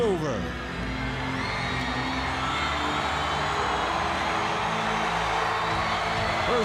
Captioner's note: dramatic music continues; audience members screaming